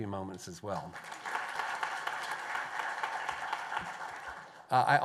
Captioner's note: applause